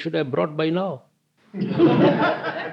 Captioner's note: laughter